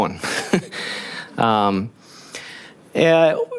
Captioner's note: laughing